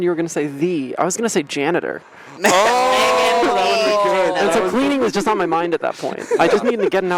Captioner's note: laughter